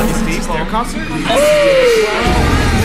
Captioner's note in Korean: 환호; 극적인 음악